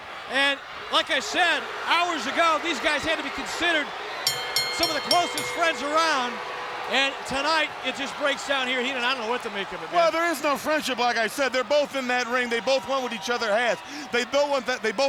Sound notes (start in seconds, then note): 4.2 bell rings